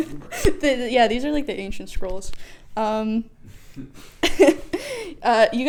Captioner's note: laughs